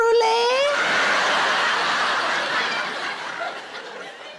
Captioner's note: audience laughs